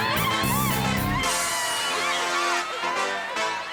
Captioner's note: cheering reggie